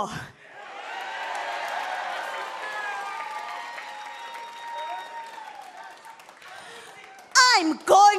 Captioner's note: cheers and applause